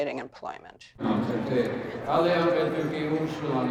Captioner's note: speaking Lakota